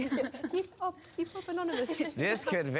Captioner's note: laughs